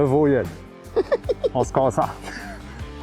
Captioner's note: laughing